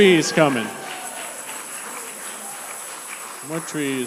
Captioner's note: congregation applauding; shakers rattling